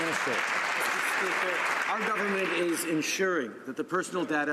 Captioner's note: some Applause